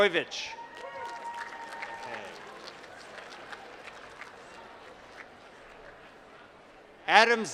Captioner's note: applause